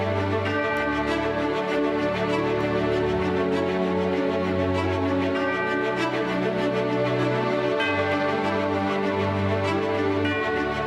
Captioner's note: bells tolling